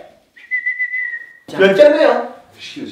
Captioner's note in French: il siffle